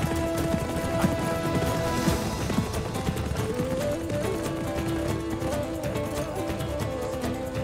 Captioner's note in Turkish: Müzik devam ediyor; At nalı sesi